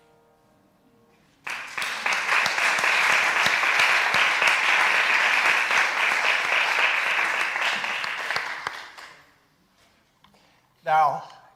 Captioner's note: applause!